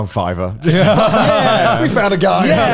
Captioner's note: laughing